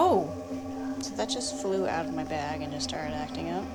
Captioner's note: woman's Voice